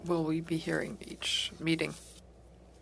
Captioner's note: speaking French